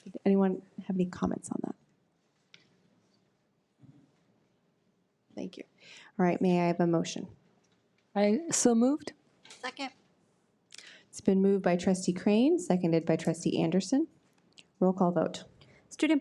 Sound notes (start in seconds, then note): none